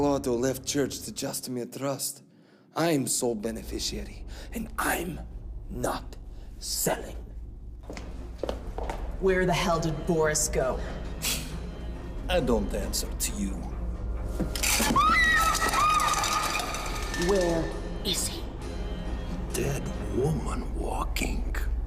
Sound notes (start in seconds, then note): 7.8 footsteps pattering; 8.0 tense music; 11.2 Viktor scoffs; 14.6 glasses shatter; 14.8 Veronika shrieks